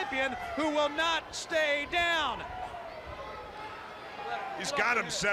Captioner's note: crowd chatter